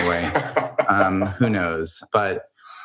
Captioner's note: laughs